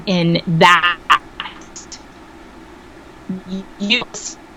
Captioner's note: audio cutting out